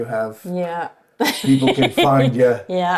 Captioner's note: laughing